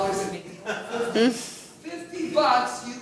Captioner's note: laughs